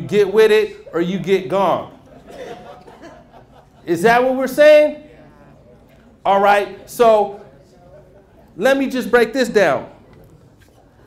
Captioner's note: murmurs